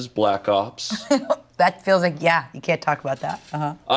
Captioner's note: laughs